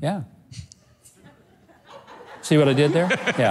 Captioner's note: audience laughs